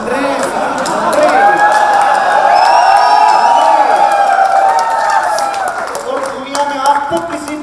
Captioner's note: audience cheers